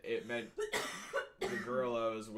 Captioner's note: coughing